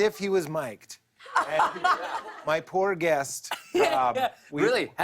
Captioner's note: laughter